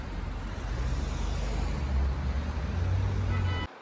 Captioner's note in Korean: 바람 솔솔~